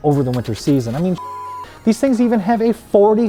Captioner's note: beep